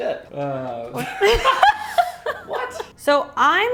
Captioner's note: laugh sounds